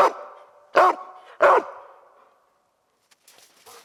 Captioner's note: barking